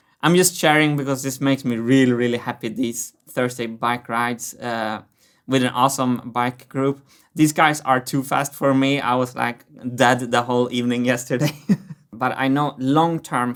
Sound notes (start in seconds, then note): 11.4 chuckles